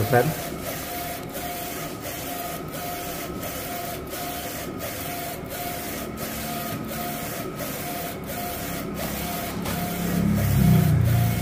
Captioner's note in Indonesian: suara mesin printer